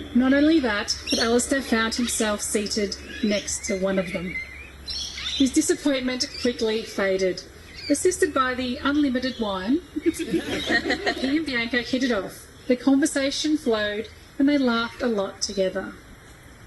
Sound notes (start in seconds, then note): 9.9 guests laugh